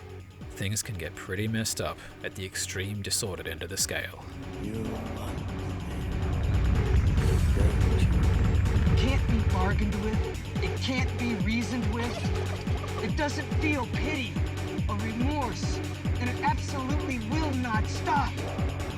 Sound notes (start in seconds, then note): 12.0 sinister giggling